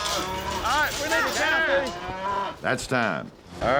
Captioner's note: cows moo